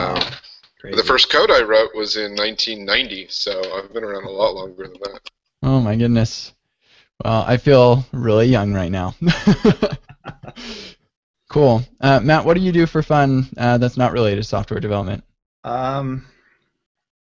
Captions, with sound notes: The first code I wrote was in 1990, so I've been around a lot longer than that. - Oh, my goodness, well, I feel really young right now. (laughter) Cool, Matt, what do you do for fun that's not related to software development?